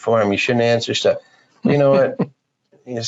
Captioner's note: laughing